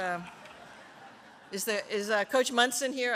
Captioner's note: laughter